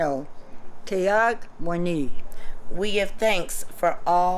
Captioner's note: non-english speech